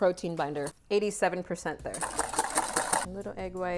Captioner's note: whipping